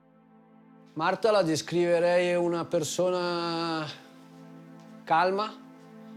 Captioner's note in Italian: parla in italiano